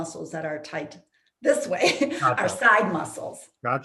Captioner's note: chuckles